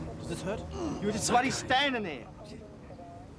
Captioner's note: cop grunts